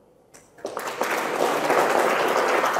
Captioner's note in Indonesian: tepuk tangan